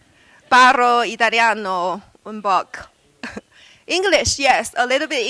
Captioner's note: speaking italian